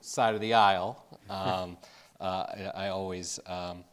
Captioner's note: Jeff chuckling